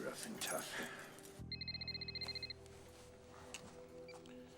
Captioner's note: cell phone rings